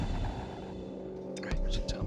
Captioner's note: whispering